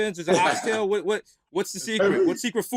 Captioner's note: laughter